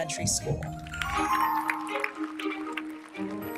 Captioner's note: audience member cheers; audience applauding